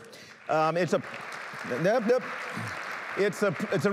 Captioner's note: applause